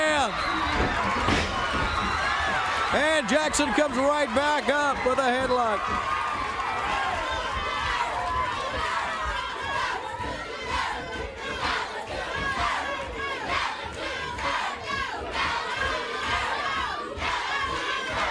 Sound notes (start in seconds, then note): 7.4 crowd cheering